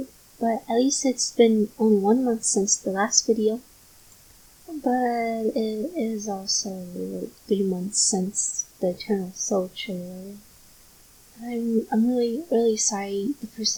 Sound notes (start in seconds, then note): 11.4 pausing umm